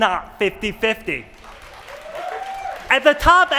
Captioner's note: applause